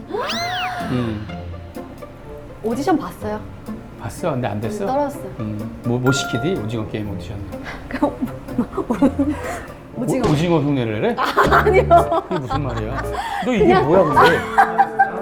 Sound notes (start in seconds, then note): 11.2 haha